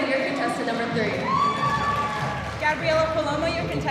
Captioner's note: audience cheering